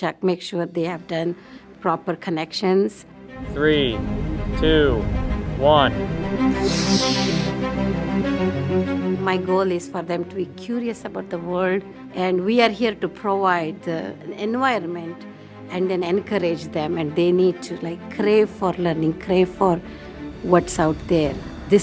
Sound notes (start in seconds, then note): 6.4 stirring music continues; 6.5 rocket hissing